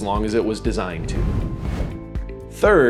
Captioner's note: video graphics whooshing